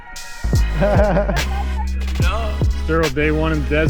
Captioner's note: chuckles